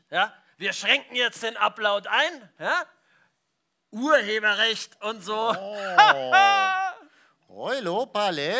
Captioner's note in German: lacht